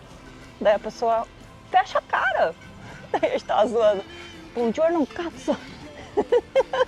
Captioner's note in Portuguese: risadas